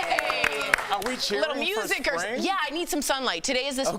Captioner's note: applause